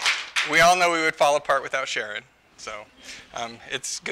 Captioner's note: applause